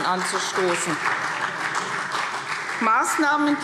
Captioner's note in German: Beifall CDU